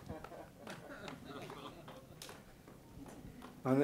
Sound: laughing

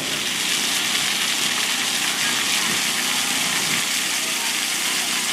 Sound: water rushing

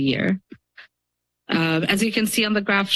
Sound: pause

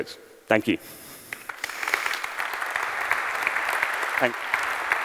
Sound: applause

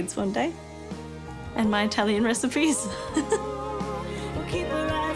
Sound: laughs

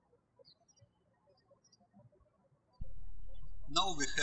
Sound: birds chirping

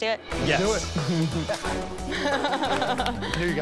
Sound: laughs

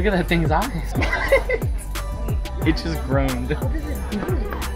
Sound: laughing

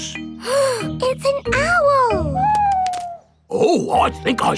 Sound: gasps

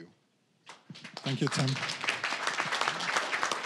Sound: applause

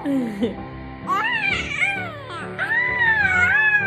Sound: moans

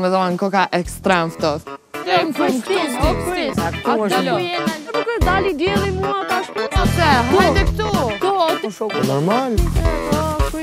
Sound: indisctict chattering about the tents

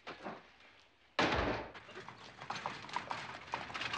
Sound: door closing

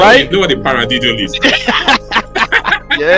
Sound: both laugh

